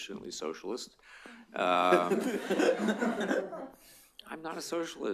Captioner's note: laughter